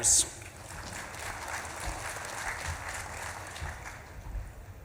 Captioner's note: audience claps and cheers